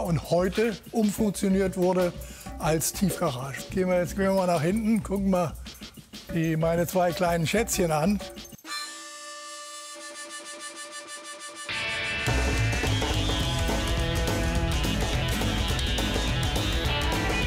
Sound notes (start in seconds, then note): 8.7 buzzing sounds; 11.6 fly rock music